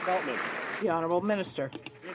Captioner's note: some Applause